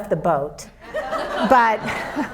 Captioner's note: audience laughs